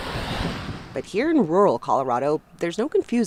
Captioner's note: voice-over